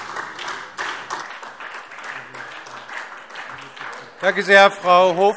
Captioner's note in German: Beifall SPD